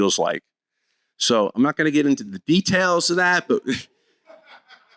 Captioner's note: laugther